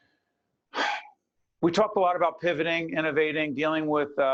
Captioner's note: sigh